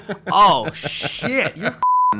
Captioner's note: laughs